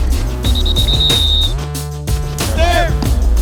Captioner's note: whistle blowing